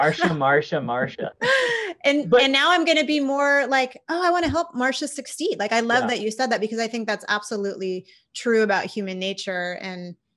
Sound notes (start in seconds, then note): 1.5 laughs